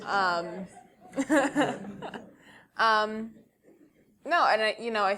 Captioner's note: laugh